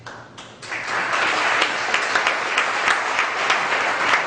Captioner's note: audience applause